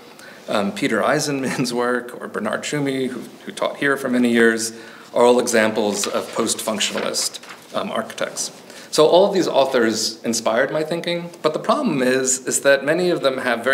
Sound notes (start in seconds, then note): 1.4 chuckles; 8.6 pages rustling